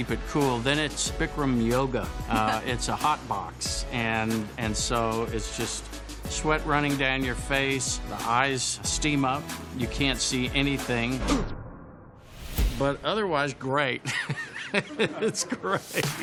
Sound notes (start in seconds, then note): 14.1 laughs